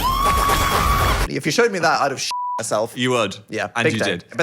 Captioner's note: beep